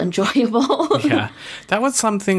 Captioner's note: laughs